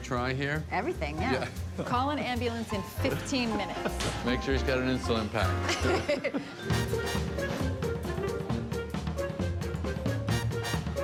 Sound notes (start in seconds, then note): 5.6 both laugh; 6.6 fast jaunty music